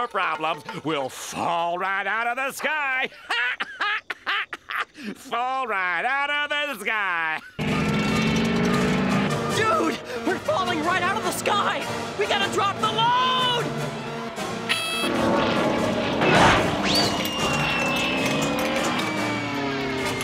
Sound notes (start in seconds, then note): 3.0 laughing; 13.8 beeping